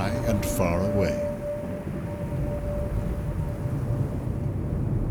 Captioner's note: thunder rumbling